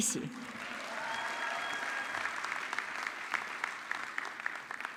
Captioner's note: audience clapping